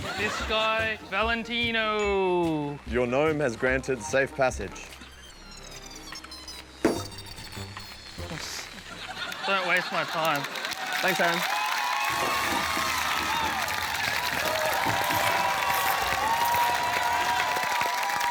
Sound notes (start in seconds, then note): 12.3 cheering, applause